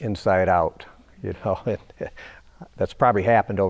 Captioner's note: chuckling